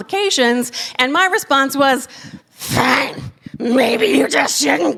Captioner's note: haggard monster voice